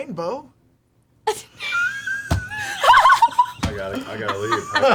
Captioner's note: all laugh